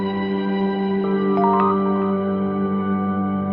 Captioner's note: text sound; soft music